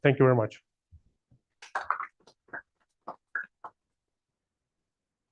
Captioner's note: applause